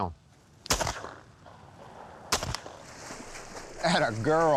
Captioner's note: two gunshots, water splashing